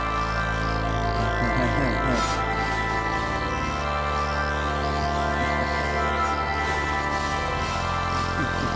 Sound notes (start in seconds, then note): 1.3 Jones laughing